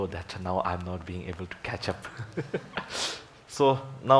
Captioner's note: laughs